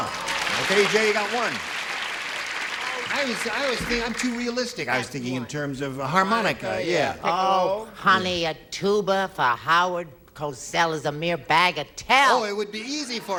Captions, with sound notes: THAT'S A GOOD JOKE. HE SWALLOWED A TUBA. A TUBA. OKAY, E.J., YOU GOT ONE. [APPLAUSE] I'M TOO REALISTIC. I WAS THINKING IN TERMS OF HARMONICA, YEAH. OH, HONEY, A TUBA FOR HOWARD COSELL IS A MERE BAG OF TELL.